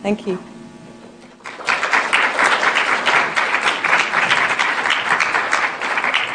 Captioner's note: applause